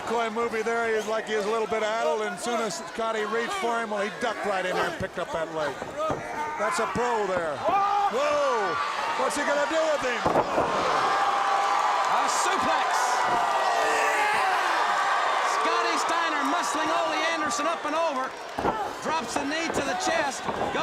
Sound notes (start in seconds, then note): 10.7 crowd cheering; 13.8 crowd cheering